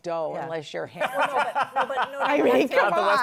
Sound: laughs

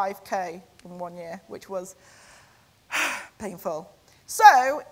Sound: sighs

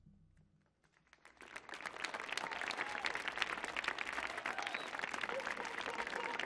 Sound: audience applauding; audience cheering; audience ululating

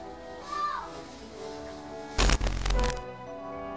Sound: girl yells

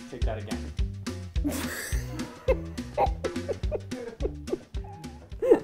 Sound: laughs

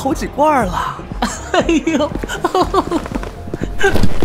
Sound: laughs

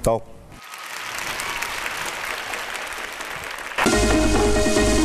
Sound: clapping hands

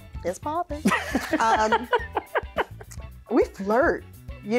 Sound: laughs

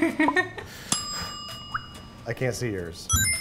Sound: she laughs; timer dings

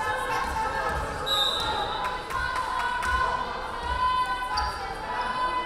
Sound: referee whistling

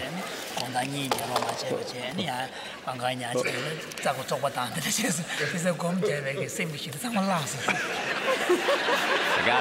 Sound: laughter

